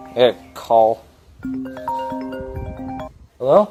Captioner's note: phone Rings